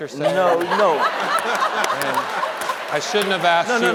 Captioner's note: panelists laughing; audience laughing